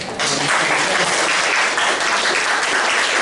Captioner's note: applause